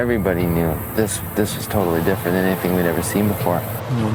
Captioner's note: crashing waves